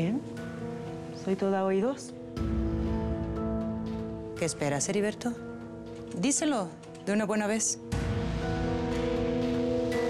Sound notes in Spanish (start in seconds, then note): none